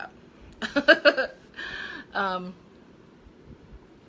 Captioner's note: laughing